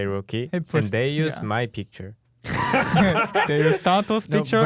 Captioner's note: laughing